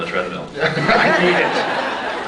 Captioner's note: laughing; laughs